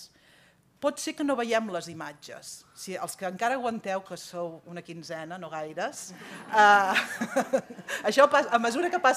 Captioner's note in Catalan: riures